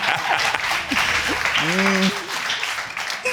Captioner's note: all clapping and laughing